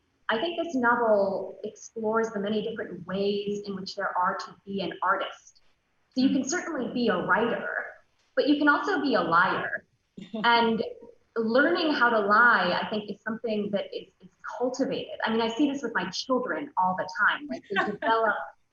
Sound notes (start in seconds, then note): 10.2 soft giggles; 17.6 loud laughs